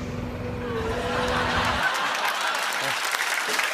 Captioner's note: laughter